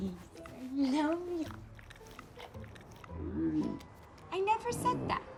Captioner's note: Bruce slurping